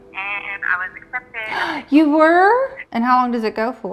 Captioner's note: gasps